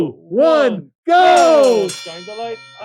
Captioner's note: bell ringing